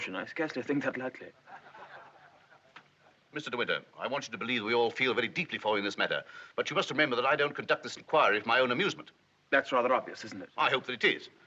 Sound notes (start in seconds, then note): 1.4 people laughing